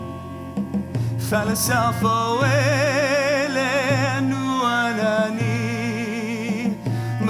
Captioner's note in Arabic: بالعربية